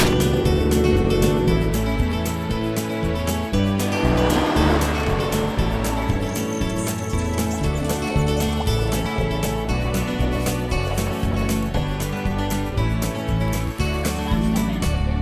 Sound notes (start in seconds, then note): 0.0 gunshots; 0.2 boat motor; 2.0 wind rustling; 4.0 atv rumbling